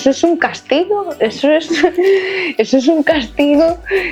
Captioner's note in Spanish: risas